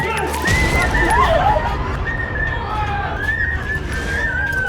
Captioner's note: woman screaming